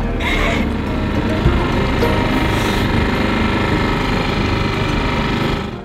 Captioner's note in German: Bootsmotor brummt